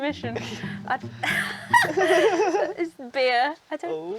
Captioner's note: both laugh